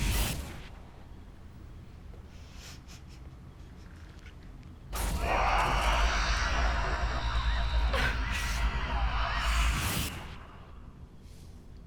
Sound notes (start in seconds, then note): 3.3 sobbing; 4.9 screams